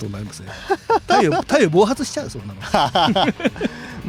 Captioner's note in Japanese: 笑い